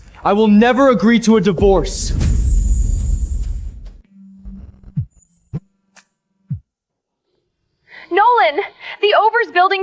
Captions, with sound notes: I will never agree to a divorce! [phone buzzing] Nolan, the Overs Building